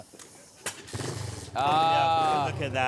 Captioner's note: bike starts